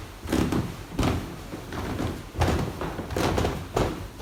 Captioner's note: shoes thudding